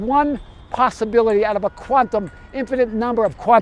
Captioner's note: horn honks